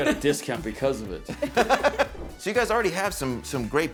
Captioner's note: all laugh